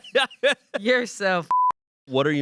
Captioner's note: Shayne laughs; beep